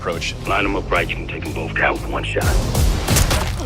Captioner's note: radio